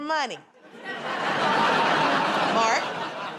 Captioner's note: laughter